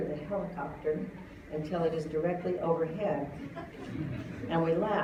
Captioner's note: laughter